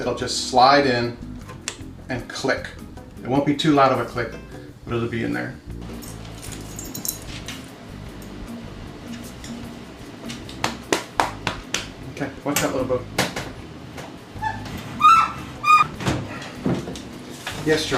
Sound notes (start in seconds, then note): 6.0 dog collar jingling; 6.1 patting; 14.3 washer squeaking